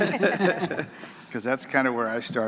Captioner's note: laughing